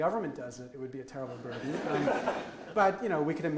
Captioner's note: audience laughs